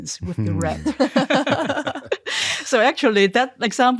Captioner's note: all laughing